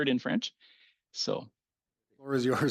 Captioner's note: speaking French